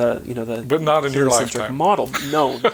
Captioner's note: chuckling